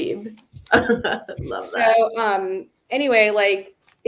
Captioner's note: laughs